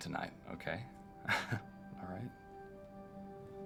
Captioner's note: laughs